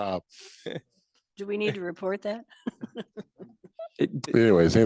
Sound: laughs

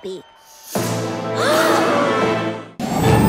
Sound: gasps

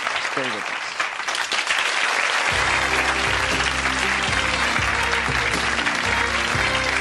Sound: audience applauding; upbeat music

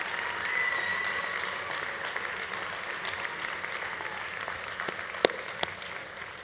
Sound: students cheering continues; students applause continues

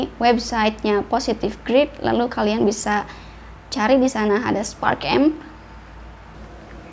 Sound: Indonesian

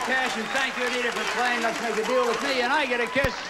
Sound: audience applauding

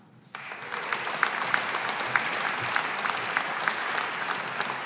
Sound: audience applauding

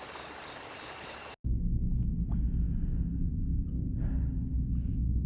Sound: low, echoing drone

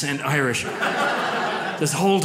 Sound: audience laughs

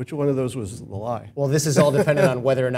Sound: laugh

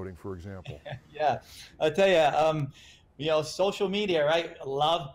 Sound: laughs

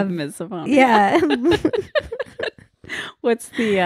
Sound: laughing

